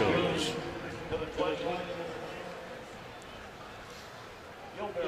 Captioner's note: pa announcement